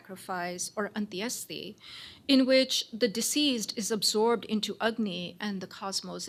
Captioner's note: non-english